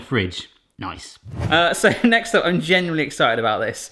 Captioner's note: whooshing